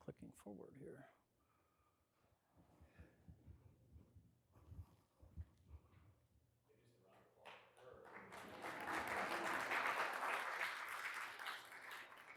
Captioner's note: applause